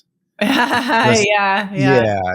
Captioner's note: laughing